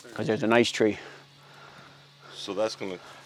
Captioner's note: none